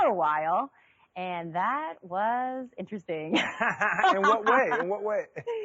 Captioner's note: laughing